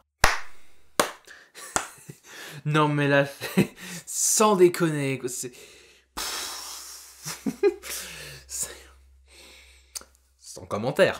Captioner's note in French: Applaudissements